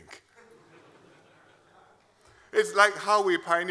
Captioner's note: laughter